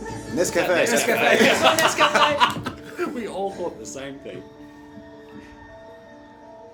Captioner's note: laughs